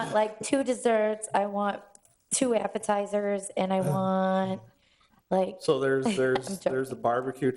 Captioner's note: laughs